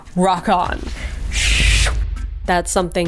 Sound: soft whoosh

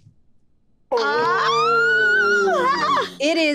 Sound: group exclaiming

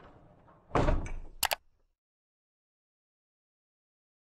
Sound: clicking

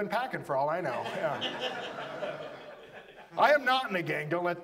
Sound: audience laughs

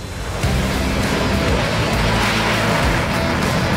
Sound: jet roaring

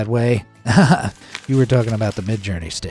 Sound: narrator chuckles

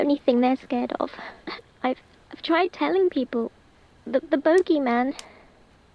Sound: chokes up

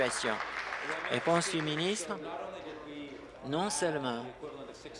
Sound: applause

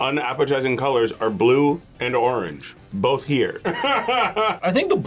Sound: laughs

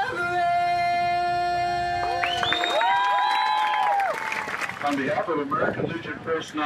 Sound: cheers and applause

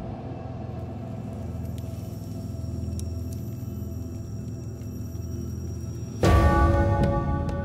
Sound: fire crackling

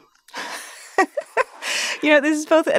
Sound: laughing

